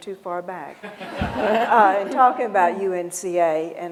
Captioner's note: laughter